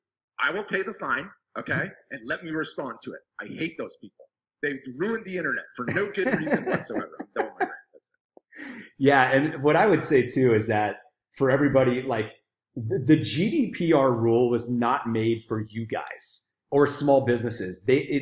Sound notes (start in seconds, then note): 7.3 laughing drowns out speaker